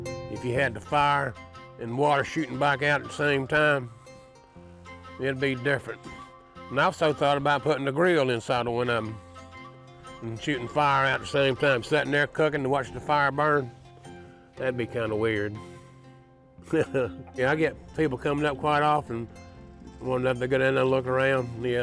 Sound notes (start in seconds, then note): 16.8 chuckles